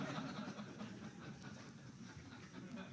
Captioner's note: laughter